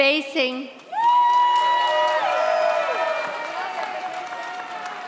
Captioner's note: audience cheers